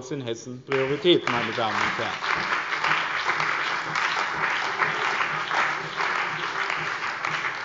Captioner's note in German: Beifall bei dem BÜNDNIS 90/DIE GRÜNEN und der CDU